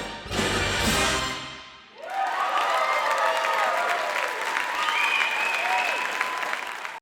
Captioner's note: cheering and applauding